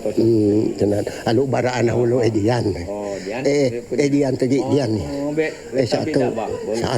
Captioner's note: man speaking in foreign language; speaking in foreign language